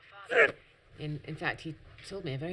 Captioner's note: groaning